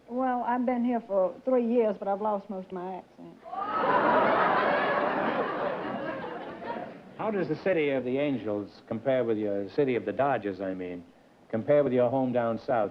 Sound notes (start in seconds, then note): 3.5 laughter